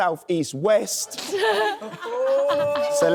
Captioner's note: laughs